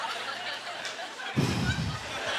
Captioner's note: audience laughter; exhales; audience laughter